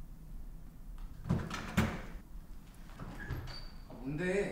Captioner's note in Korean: 문 열리는 소리